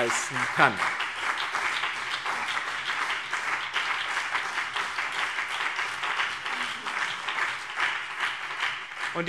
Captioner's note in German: Beifall BÜNDNIS 90/DIE GRÜNEN und CDU